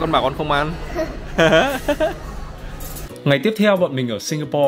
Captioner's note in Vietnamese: cười